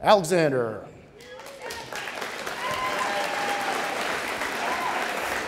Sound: audience cheering

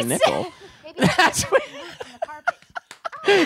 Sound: both laughing

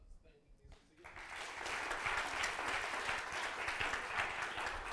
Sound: applause

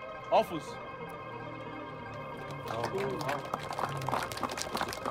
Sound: crowd claps

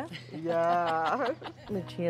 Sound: laughing

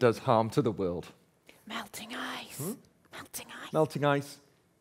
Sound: whispers

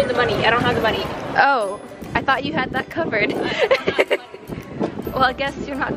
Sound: laughs

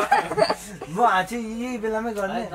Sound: in Nepali

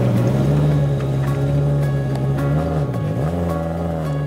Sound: car engine idles

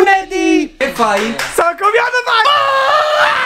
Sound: screaming

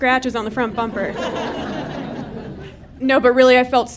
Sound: audience laughing

